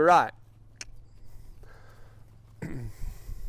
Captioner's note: clicks tongue